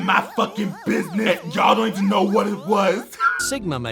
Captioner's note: alienated electronic music; laughs